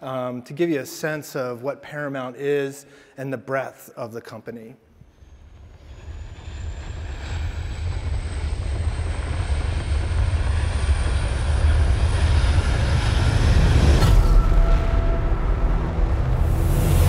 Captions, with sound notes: to give you a sense of what Paramount is and the breadth of the company. (engine rumbling) (dramatic music)